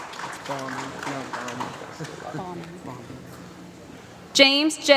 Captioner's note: applause